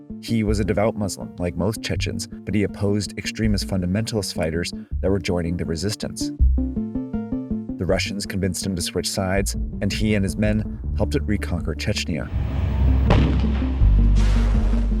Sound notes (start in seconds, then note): 6.3 gentle electronic music; 12.5 missile firing; 14.2 loud booming